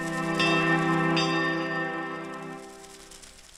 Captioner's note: leaves rustling; bells chiming